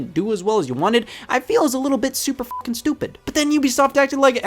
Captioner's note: beep